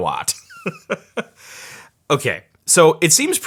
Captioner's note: laughing